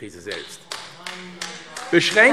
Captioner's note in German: Beifall AfD - Zurufe DIE LINKE